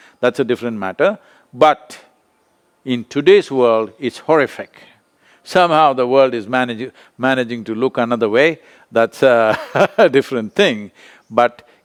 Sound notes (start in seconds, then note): 9.4 laughs